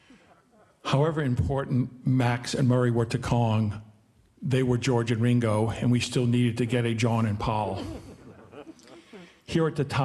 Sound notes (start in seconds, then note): 7.6 audience laughing